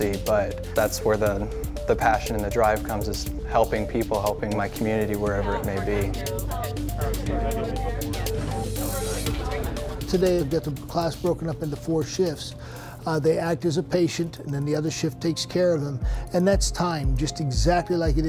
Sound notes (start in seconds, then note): 5.0 students talking